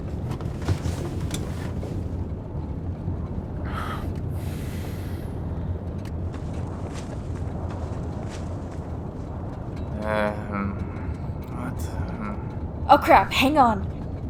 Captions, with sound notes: (Sigh of relief) (Groaning) What the... Oh crap, hang on!